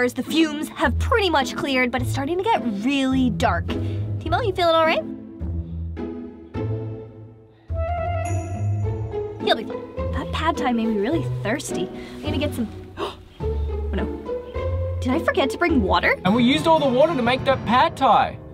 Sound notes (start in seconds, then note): 5.3 playful music; 12.8 gasps